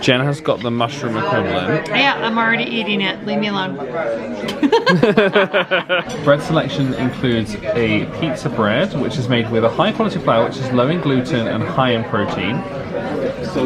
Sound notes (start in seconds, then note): 4.4 they laugh